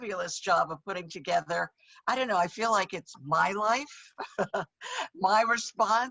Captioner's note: chuckles